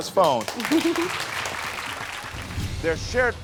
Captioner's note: audience applauding